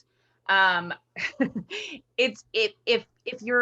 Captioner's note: chuckles